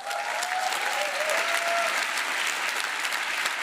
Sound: applause

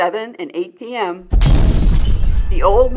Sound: sound of an Explosion

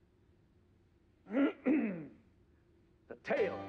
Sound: clears throat

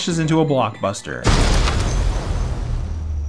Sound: crash

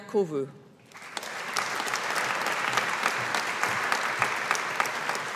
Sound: audience applauding

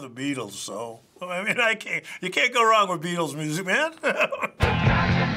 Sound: chuckles

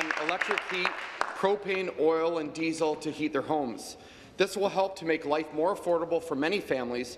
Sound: applause

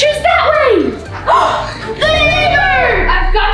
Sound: gasping

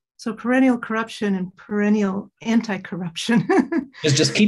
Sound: chuckles

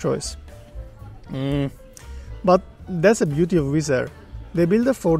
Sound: hmh

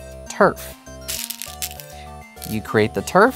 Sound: stones rattling

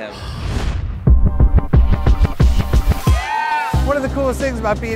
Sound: swoosh / music

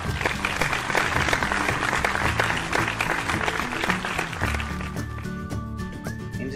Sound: applause

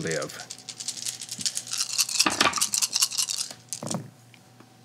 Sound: dice rattling

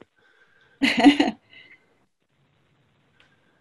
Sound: laughing

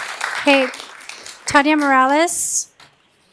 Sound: applause

